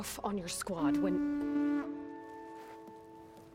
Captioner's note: horn